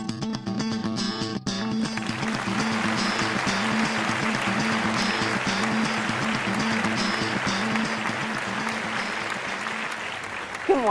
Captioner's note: applause